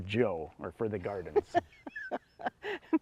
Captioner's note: laughs